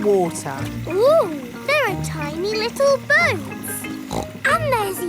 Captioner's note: snorts